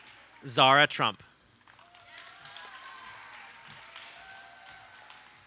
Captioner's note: audience applauds